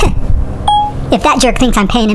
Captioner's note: phone beeping